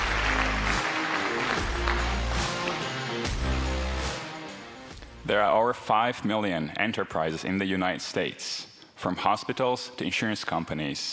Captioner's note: applause